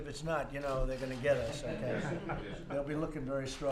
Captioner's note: laughter